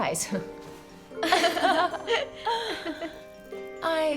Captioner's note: women laugh